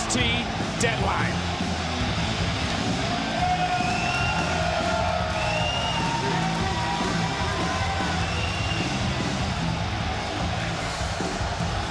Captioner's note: crowd cheers